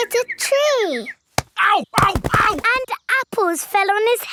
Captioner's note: none